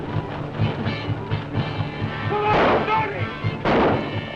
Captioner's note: shouting